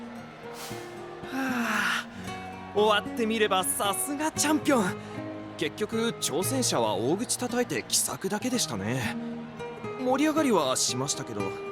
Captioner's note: sigh